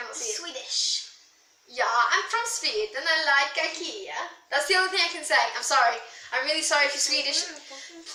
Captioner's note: bad Swedish accent